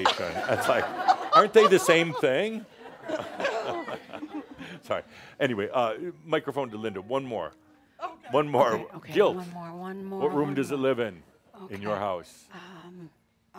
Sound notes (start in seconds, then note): 2.9 chuckles